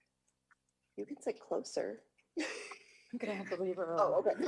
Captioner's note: laughs